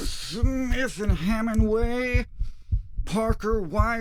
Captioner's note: heartbeats